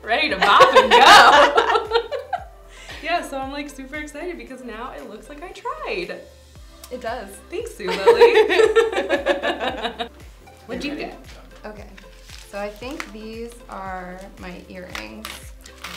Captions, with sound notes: bop and go. [ Both laugh ] Yeah, so I'm, like, super- excited because now it looks like I tried. >> It does. >> Thanks, Zulily. [ Both laugh ] >> What'd you get? >> Okay. So, I think these are my earrings... >> Ooh.